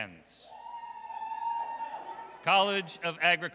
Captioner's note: audience cheers